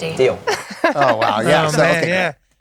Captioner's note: laughter